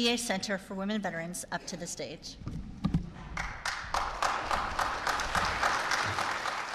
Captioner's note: applause